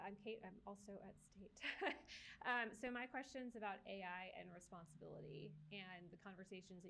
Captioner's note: laughs